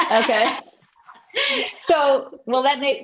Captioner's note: laughing